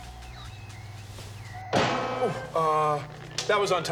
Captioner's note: clangs